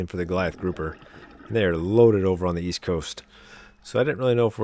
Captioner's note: water Sounds